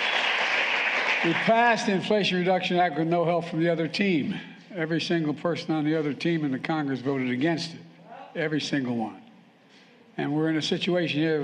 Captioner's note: applause